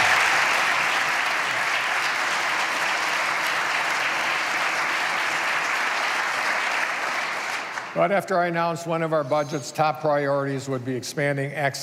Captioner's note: applause